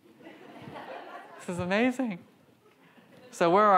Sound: audience laughs

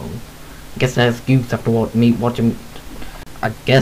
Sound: sigh

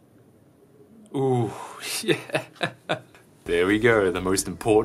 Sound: chuckles

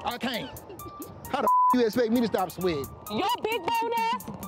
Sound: beep

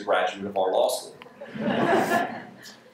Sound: laughter

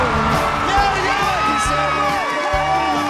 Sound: cheering

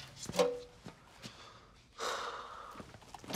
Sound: sighs

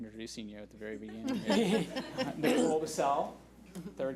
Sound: laughs

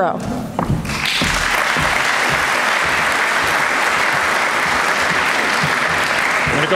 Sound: applause

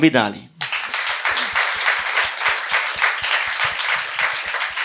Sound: applause

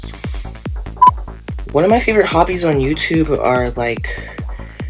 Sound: hushed; beep

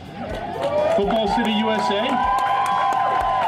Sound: crowd cheering

